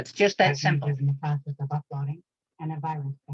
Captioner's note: recorded voice